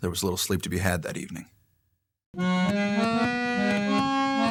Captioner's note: voiceover